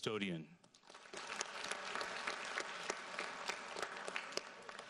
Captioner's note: audience applauds